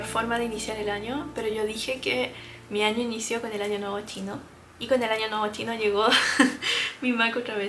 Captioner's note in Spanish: risas